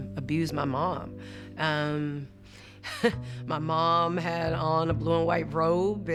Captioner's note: laughs